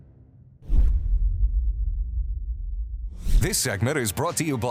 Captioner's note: air whooshing